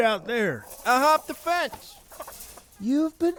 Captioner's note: fence rattling